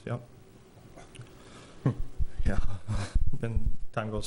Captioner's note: laughs